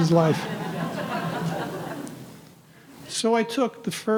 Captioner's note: audience laughing